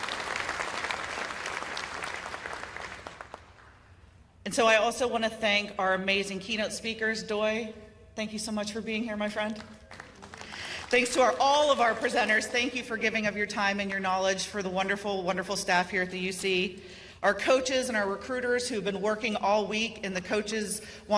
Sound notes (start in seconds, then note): 9.8 applause